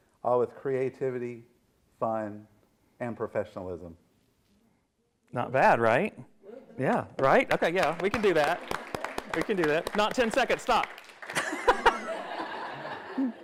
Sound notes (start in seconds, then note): 7.2 everyone applauds; 11.3 everyone laughs